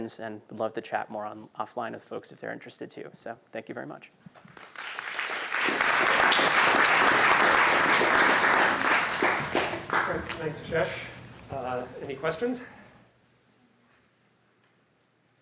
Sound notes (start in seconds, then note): 4.4 applause